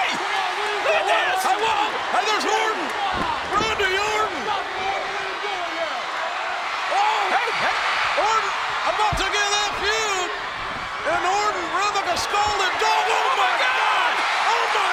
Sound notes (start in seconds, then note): 7.0 audience cheers; 12.3 speaks faintly